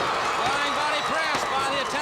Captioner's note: crowd cheering